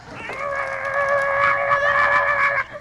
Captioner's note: Buddy groaning